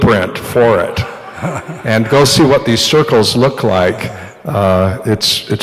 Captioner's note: laughter